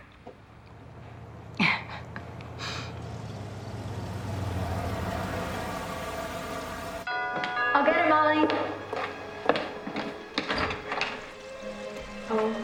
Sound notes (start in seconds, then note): 1.4 chuckling; 7.1 doorbell ringing; 8.0 tense music